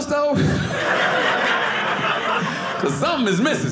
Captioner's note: audience laughing